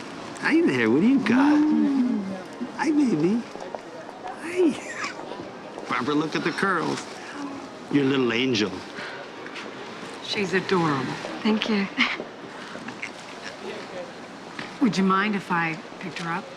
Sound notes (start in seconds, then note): 4.8 chuckles